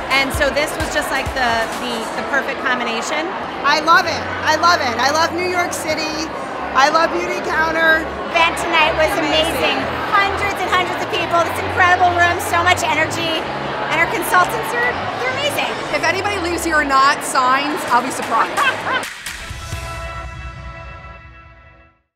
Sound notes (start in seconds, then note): 18.2 laughs; 18.6 dramatic bass music